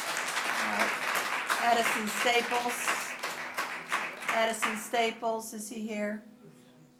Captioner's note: applause